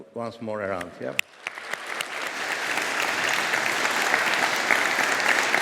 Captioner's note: audience applauding